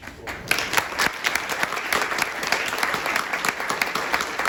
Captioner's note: applause